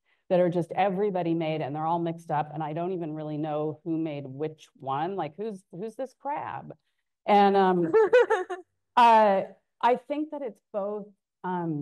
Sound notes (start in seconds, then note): 7.8 laughing